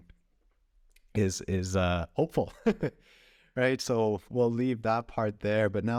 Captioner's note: laughter